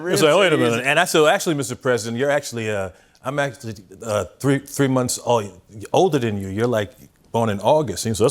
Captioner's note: none